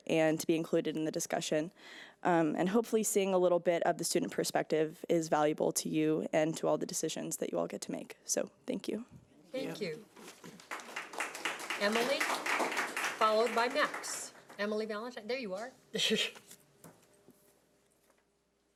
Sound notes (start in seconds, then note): 10.2 audience clapping; 16.4 laughing